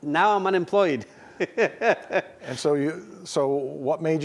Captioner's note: chuckles